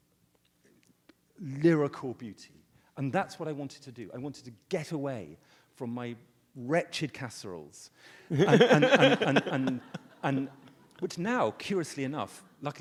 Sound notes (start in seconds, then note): 8.3 audience laughs